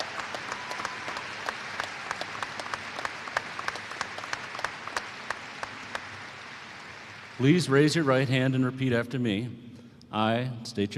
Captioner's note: applause